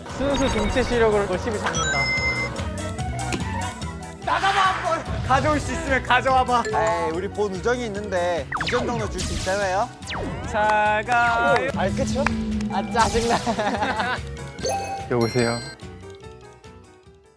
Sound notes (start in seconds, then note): 13.2 kekekekeke